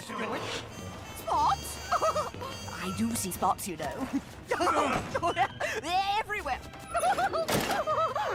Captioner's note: laughing insanely and hysterically; she gets tossed in the padded van while laughing